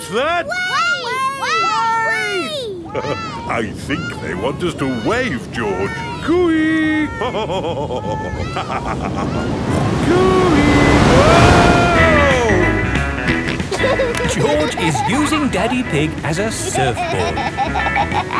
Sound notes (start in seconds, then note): 7.7 laughs; 13.2 snorts and laughs